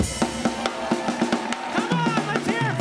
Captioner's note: audience applauding